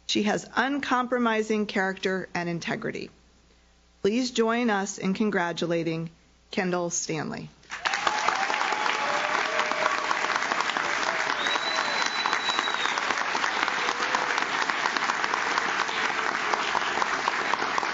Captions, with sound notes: She has uncompromising character and integrity." Please join us in congratulating Kendall Stanley. (audience claps) (audience cheers)